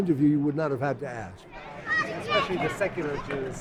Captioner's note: voiceover